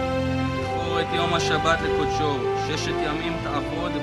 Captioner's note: reading in Hebrew